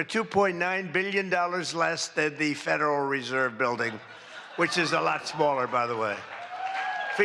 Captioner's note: applause